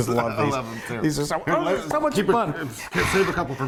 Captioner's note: talking excitedly over each other; laughing